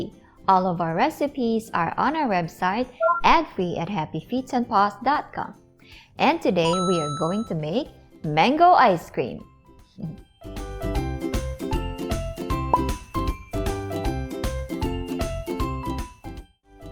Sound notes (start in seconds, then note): 10.5 coin flips; 12.7 bottle pops